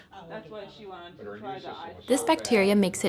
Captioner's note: overlapping chattering